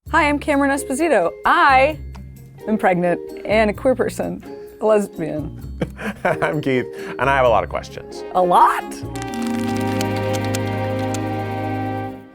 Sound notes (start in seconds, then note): 5.8 laughs; 9.1 relaxed jazz music